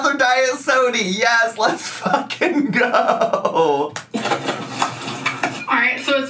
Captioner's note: laughing